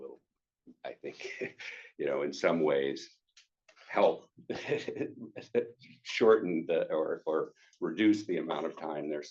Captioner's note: chuckles